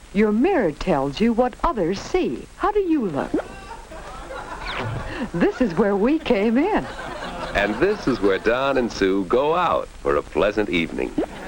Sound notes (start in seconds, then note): 3.1 audience laughs